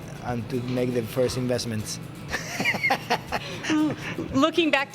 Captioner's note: laughs